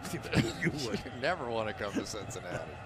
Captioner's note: laughter